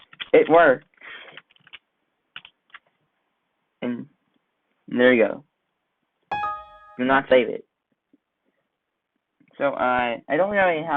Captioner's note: Windows XP window sound